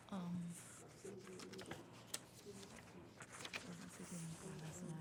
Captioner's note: students chattering faintly